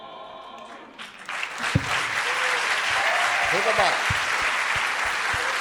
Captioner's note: audience applauding